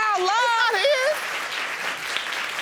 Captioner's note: audience applauds